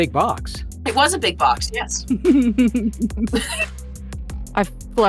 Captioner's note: giggles